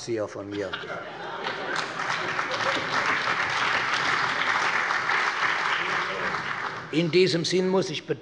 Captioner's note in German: Heiterkeit - Allgemeiner Beifall